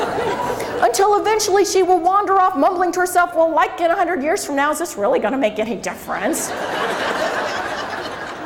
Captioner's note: crowd laughs